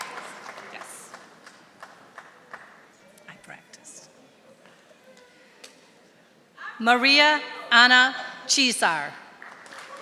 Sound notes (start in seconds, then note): 1.4 whispering